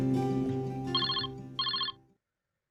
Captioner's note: phone ringing